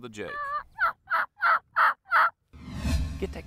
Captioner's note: turkey sounds